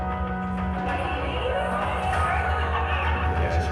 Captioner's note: crowd noise